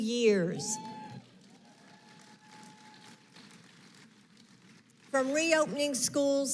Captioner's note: applause